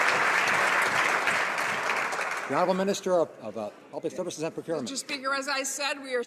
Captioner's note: some Applause